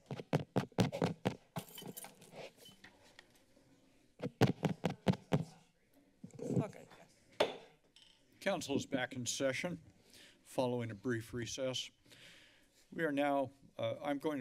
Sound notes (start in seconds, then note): 0.0 silence; 0.2 mic tapping; 1.6 glass breaking; 4.2 mic tapping; 7.5 strikes gavel